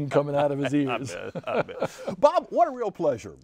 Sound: laughing

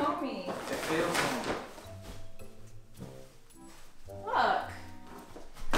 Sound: bag rustling

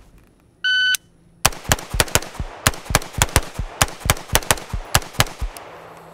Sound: timer beeps; rifling firing

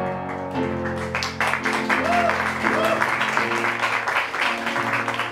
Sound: applause

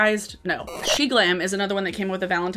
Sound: static squeals

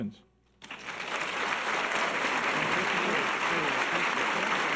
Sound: audience applause

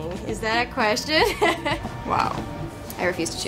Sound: laughing

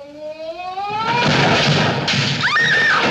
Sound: slam, crash!

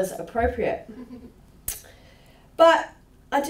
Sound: laughter

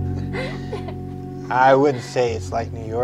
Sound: Elsa laughing

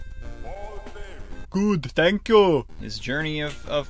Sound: Arnold Schwarzenegger voice

